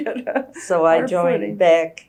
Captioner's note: laughs